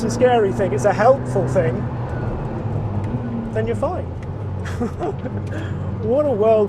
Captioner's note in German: lacht